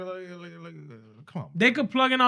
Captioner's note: mumbling